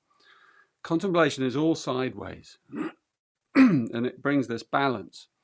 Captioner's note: clears throat